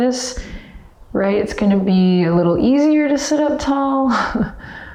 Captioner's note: chuckles